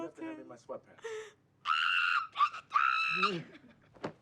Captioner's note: screams